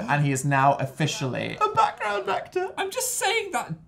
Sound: pretending to cry

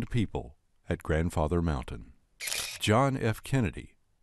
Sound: shutter clicking

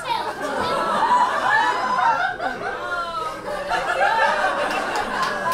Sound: audience laughs

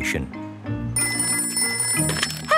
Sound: ringing

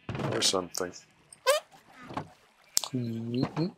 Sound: squeak

